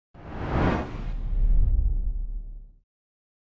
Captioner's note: air whooshing